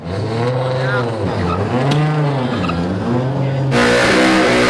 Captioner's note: car engine revving